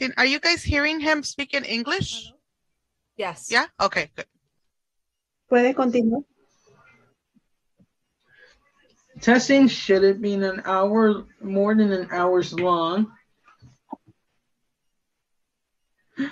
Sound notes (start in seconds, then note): 5.5 speaks Spanish